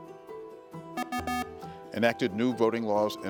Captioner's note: beeping